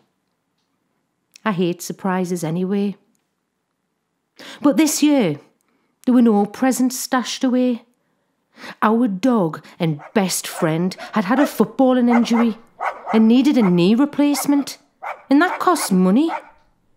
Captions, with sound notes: I hate surprises anyway. But this year there were no presents stashed away. Our dog, and best friend, had had a footballing injury [BARKS] and needed a knee replacement, and that cost money.